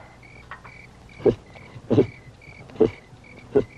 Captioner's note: baboon grunting